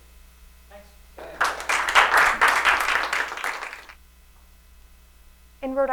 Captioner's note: applause